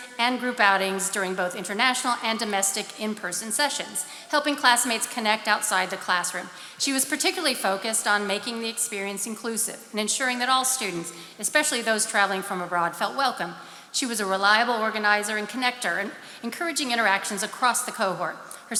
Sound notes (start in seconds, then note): none